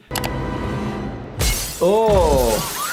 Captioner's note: glass shattering